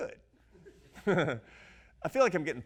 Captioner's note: audience laughs